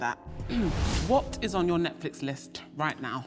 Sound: clears throat

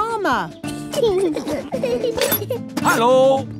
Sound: children giggling

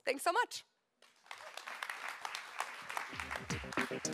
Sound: applause

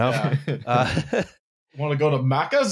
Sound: laughter

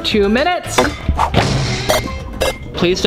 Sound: robotic beeping

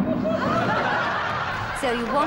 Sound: audience laughs

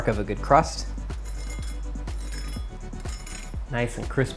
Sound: knife scratching

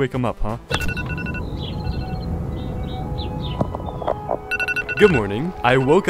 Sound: that awful Apple alarm sound, birds chirp

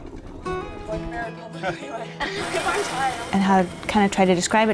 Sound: chatter

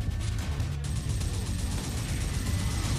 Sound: minigun sounds

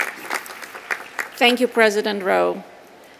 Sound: applause

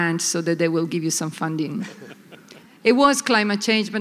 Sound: laughter

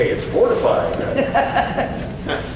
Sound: audience laughs

